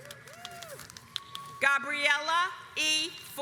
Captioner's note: audience applauds